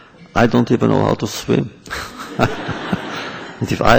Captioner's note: laughter